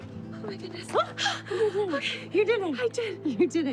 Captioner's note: sighing; gasps